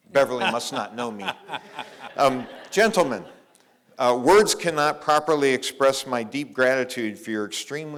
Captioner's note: laughter